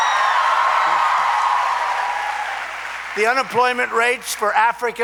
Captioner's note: applause